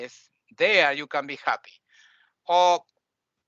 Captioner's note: none